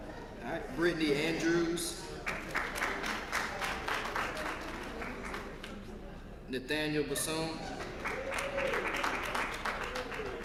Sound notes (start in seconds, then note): 2.8 applause